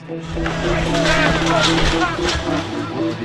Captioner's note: crowd shouting; speaking in foreign language